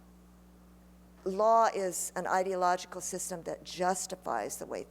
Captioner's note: none